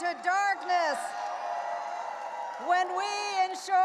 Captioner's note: audience applauding and cheering